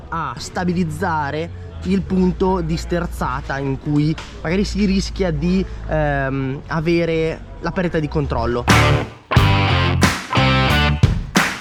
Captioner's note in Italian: Applauso